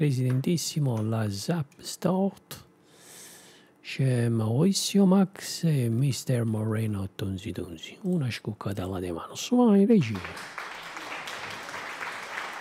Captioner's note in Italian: Applauso